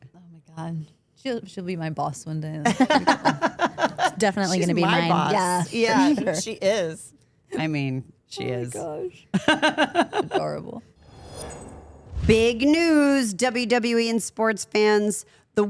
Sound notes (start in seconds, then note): 2.6 Steph and Elyse laugh